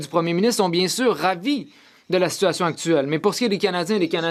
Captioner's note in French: voix de l'interprète